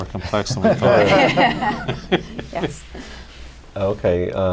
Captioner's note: laughter